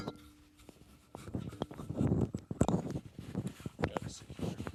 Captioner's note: rustling